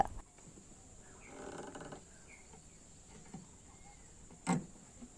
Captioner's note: wood creaking